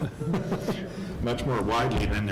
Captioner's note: laughing